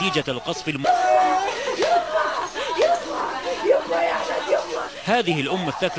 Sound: distressed woman mourning her child

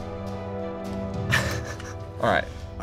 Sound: chuckling

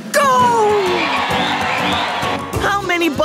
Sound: cheering

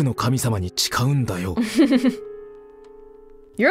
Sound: chuckles

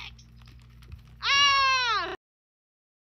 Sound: Aika screams again lol

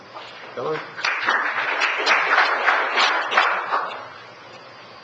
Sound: audience applauding

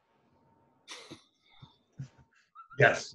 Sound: laughs

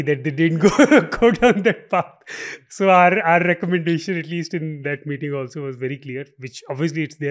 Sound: laughs

